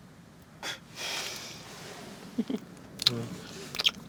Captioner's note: laughs